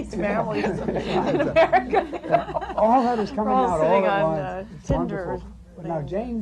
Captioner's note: laughter